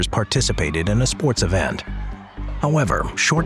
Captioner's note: children cheering